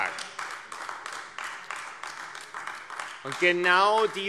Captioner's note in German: Beifall AfD